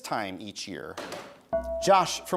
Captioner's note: bell rings